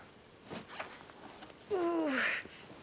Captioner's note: groaning